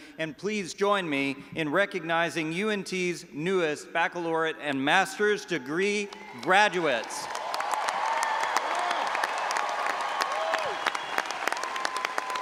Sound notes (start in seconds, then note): 6.0 all applauding and audience cheering